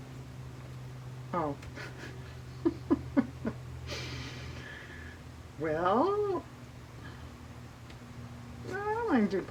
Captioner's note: laughs